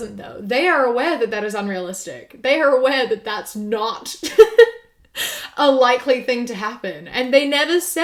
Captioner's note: laughs